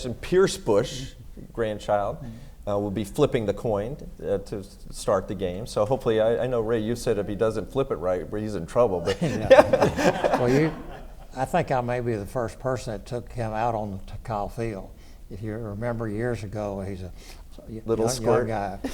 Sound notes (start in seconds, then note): 9.0 laughs